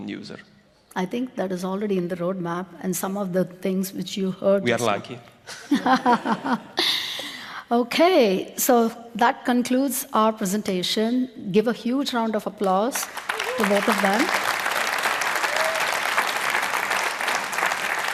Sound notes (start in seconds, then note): 15.9 laughs